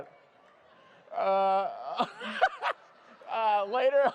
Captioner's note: laughter